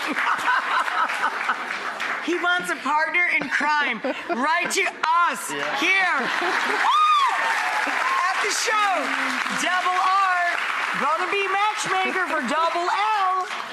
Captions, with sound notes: (audience claps) He wants a partner in crime. Write to us here. Woo! At the show, double R gonna be a matchmaker for double L.